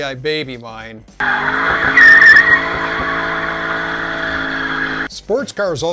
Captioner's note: the sound of burning rubber during the act of extremely skilled driving